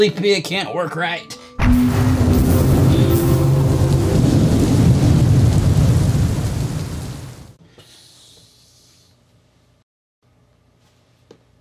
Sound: electrical noises and thunderstorm

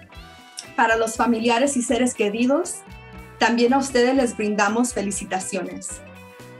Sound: speaks in foreign language

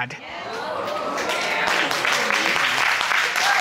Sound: audience applauding

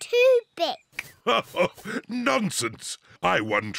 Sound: laughs

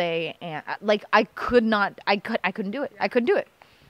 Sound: stammer

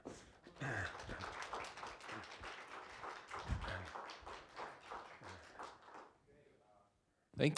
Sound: applause

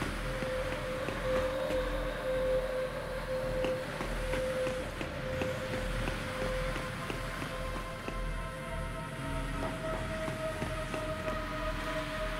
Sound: sirens

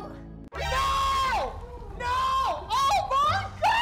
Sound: shouting

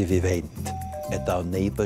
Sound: doorbell

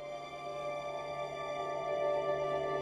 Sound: mouthing

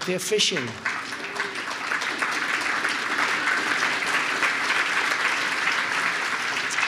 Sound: applause

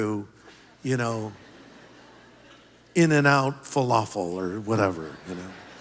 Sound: laughter

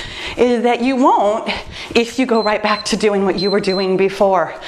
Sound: timer beeps

